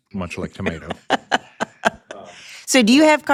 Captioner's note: laughs